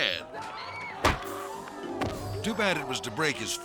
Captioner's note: thudding